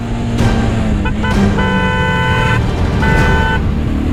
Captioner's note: honking